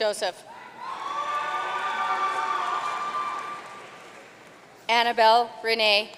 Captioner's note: audience cheering and applauding